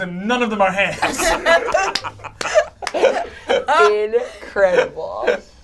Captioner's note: all laugh